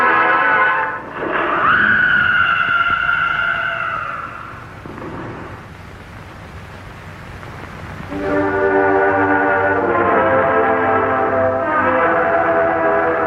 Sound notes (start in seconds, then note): 1.2 Collins screaming; 8.1 dramatic orchestral music